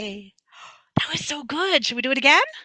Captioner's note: gasps